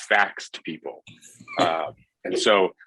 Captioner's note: laughs